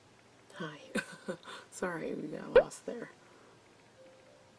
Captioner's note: chuckles